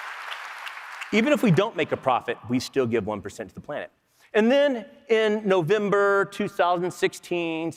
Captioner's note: applause